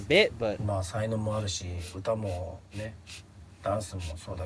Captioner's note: speaking in foreign language